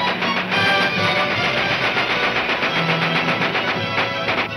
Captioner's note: gunshots banging